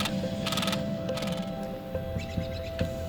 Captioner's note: birds chirping